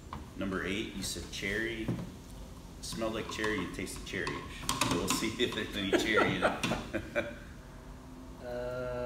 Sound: laughing

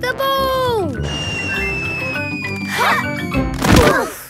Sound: whistling through air

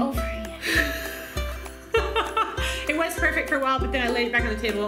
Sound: laughs

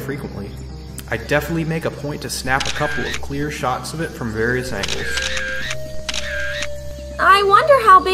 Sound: camera shutter closing

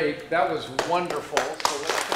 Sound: applause

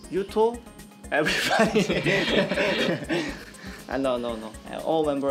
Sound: laughs

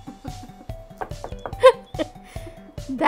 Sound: laughing

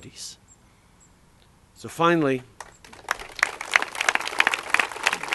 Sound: applause

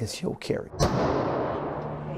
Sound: gun firing

